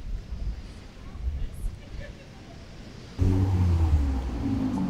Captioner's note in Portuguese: Celular vibra